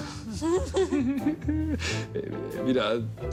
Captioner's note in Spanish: Risas